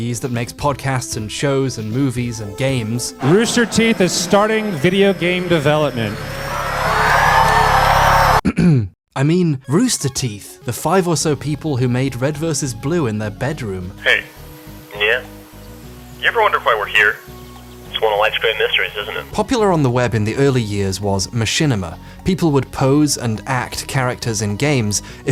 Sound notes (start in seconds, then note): 6.4 cheers and applause; 8.4 clears throat